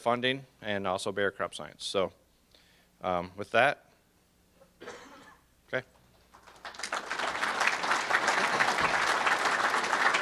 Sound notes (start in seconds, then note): 6.3 audience applause